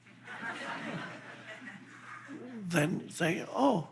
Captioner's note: audience laughing